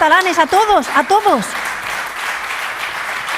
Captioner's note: applause